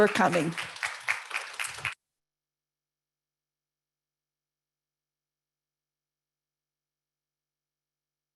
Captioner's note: applause